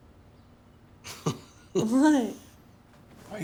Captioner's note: Elliot chuckling